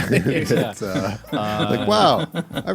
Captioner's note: laughing